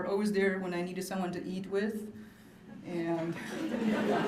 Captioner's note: laughter